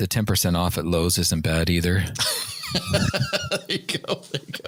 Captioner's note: laughter